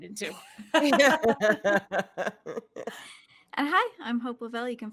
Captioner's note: all laughing